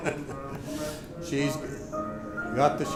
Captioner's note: laughs